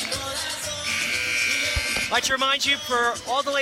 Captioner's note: buzzer sounding